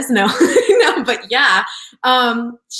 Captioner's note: laughs